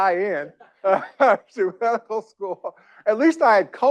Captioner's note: chuckles